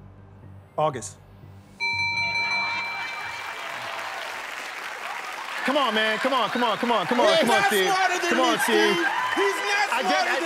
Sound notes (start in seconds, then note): 1.8 bell rings; 2.9 laughter